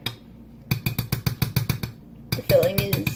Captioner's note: repeated spoon clanking